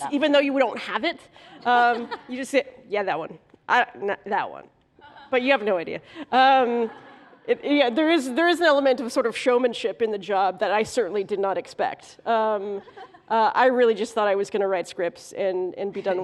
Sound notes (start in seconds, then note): 6.6 laughter